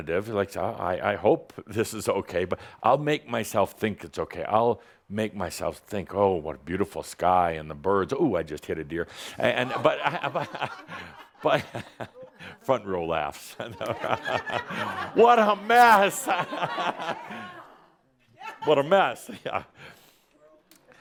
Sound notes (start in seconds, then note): 9.3 laugher; 10.6 chuckles; 13.6 more laughter